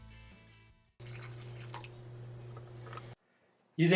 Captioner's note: coffee trickles